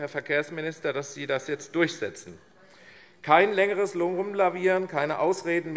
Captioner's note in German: none